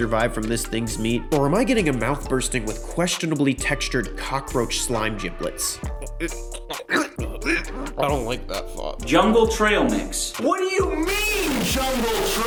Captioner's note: gags